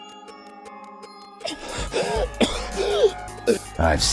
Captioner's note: wheezing, coughing